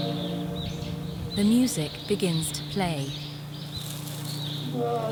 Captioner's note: voiceover